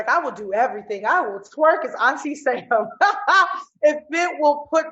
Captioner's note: laughs